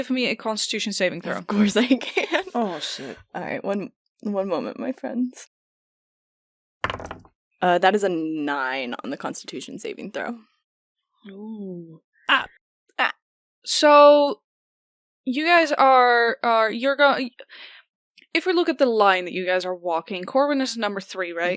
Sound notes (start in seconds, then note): 1.5 laughing nervously; 6.8 dice clunks